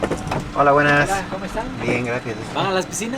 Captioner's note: in Spanish